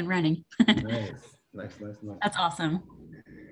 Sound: laughter

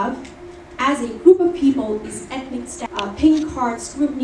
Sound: audio is choppy

